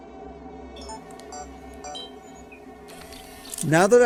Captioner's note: camera beeps